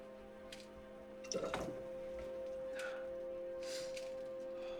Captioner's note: alcohol pouring